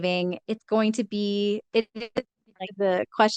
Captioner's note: speaks faintly